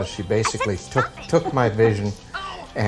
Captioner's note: laughs